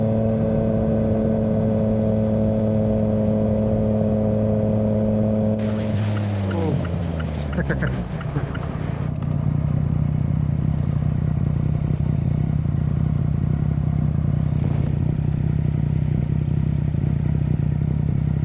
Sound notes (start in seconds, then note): 7.4 laughing